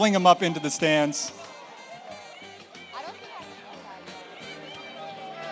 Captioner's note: audience cheers